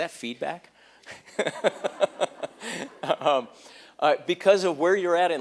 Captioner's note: laughter